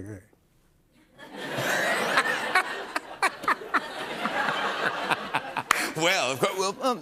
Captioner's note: laughter